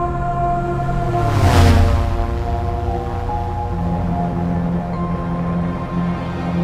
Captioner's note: airplane buzzing